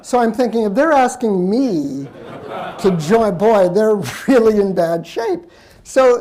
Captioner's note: laughter; laughs